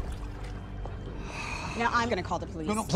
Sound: exhales

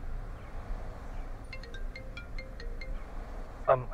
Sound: phone ringing

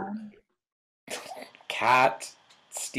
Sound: chuckling

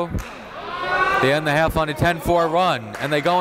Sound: cheering

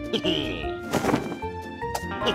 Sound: laughs

